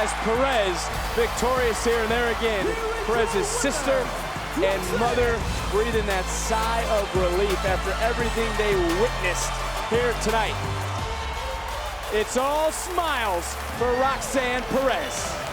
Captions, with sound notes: As Perez, victorious here and there again, Perez's sister and mother breathing that sigh of relief after everything they witnessed here tonight. (upbeat synth music) (crowd cheering) It's all smiles for Roxanne Perez. It's all smiles for Roxanne Perez.